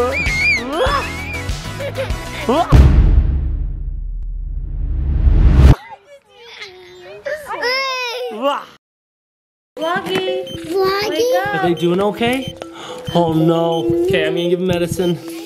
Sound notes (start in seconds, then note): 0.0 cheering; 0.1 children laughing; 5.1 whoosh; 6.6 laughing